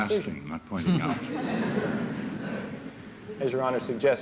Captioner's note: laughter